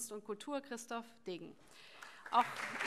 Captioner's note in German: Allgemeiner Beifall